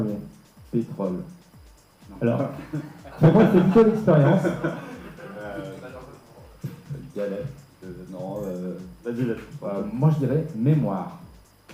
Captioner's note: laughs